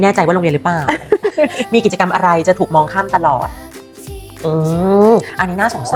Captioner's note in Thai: เสียงหัวเราะ